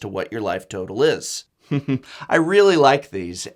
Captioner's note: chuckle